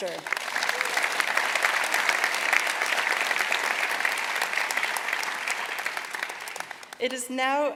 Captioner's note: applause